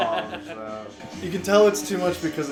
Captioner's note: laughter